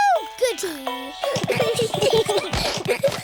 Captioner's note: all giggling